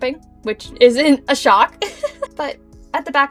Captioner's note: giggles